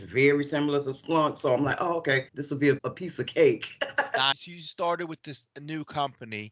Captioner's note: laughing